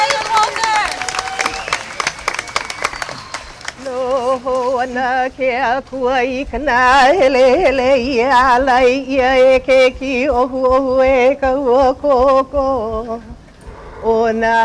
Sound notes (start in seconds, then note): 0.0 clapping and cheering; 3.8 chanting